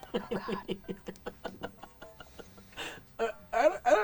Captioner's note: laughing